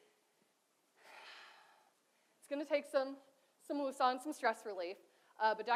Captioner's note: sighs